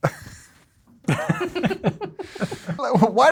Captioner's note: laughing